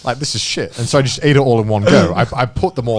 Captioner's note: chuckling